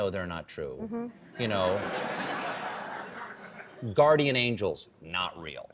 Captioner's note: laughter